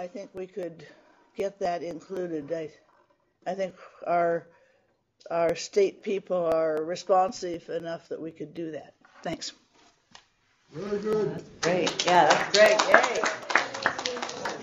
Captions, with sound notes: I think we could get that included. I think our state people are responsive enough that we could do that. Thanks. Very good. [APPLAUSE] Great. Yeah, that's great.